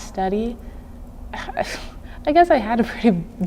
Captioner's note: chuckling